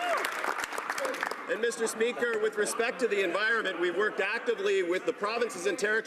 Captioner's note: cheering/Applause